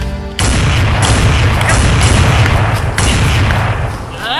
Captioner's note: gun banging